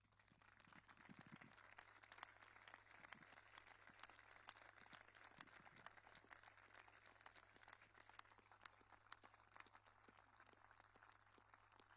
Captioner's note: applause